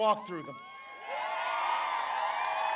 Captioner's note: applause